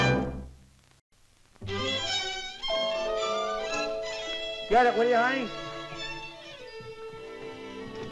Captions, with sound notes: [DOOR BELL RINGING] Get it, will you, honey?